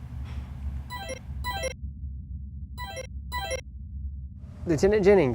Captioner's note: tone ringing